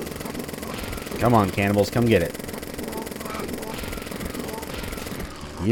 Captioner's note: jackhammer devastation